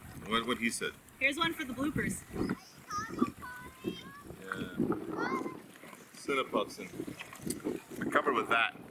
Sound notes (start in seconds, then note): 2.2 children chattering from a distance